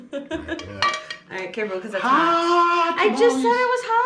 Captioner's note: exclaiming in pain